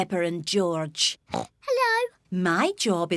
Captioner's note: oinks